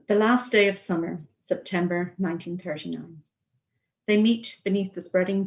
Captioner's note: reading aloud